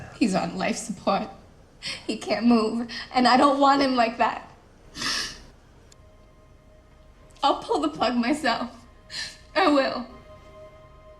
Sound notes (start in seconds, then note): 4.9 girl sniffing